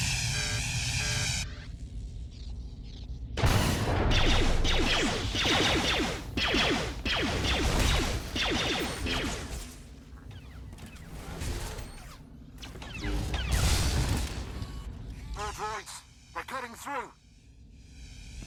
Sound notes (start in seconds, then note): 3.4 gunshots